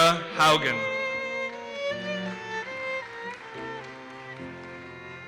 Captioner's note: audience applauses